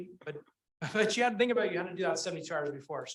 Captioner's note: chuckles